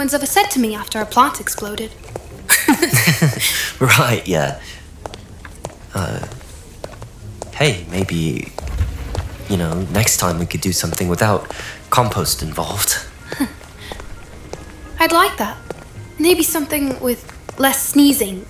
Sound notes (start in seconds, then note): 2.4 laughs; 9.6 shyly